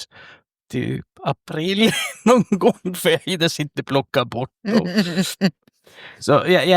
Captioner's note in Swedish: skratt